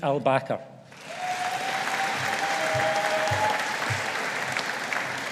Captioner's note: audience applauding